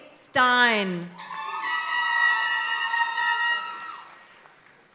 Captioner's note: party horn blaring